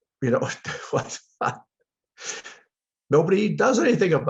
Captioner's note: he laughs